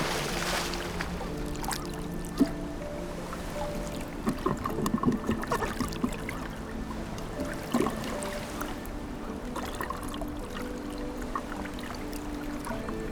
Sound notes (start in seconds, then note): 0.0 water splashing; 2.3 soft melancholic music; 6.8 water lightly splashing